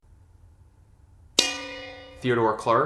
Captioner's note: bell dings